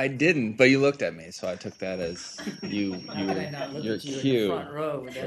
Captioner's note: laughter